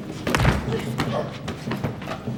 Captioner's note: body thuds; suspenseful music